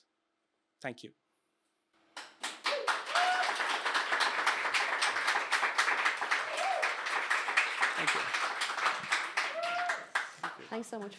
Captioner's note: applause